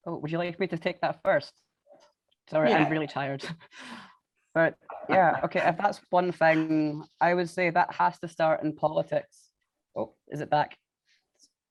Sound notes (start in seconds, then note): 4.9 laughs